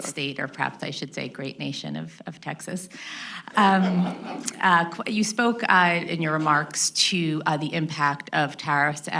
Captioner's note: laughter